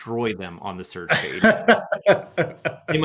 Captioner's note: laughing